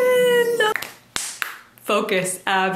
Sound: clapping

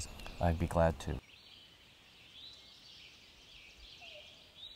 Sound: birds chirping

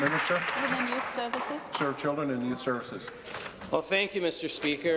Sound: applause

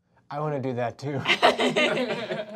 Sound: laughing

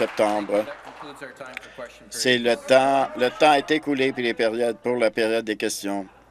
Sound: applause

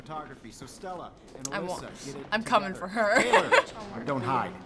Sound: laughing

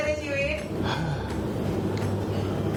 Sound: sigh

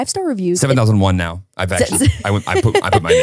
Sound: laughing

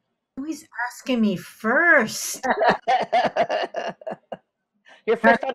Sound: all laughing

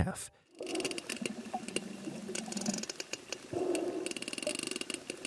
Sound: sperm whales clicking

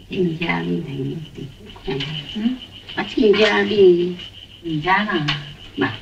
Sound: speaking in foreign language

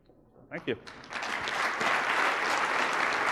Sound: applause

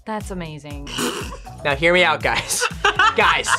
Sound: laughs

